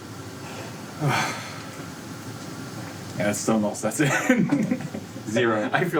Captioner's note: sighs; laughs